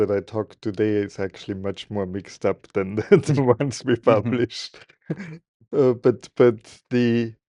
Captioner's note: laughing